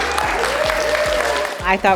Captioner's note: audience clapping